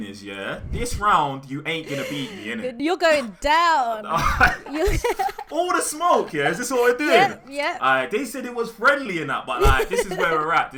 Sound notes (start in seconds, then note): 4.1 laughter